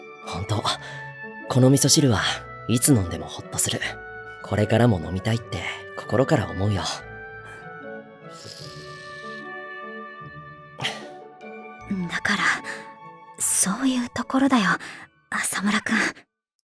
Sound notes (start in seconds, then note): 8.3 sluuurp